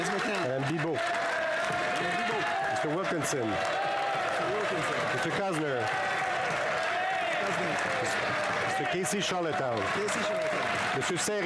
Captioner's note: applause